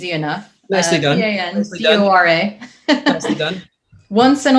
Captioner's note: chuckles